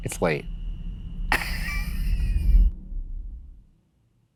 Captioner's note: laughs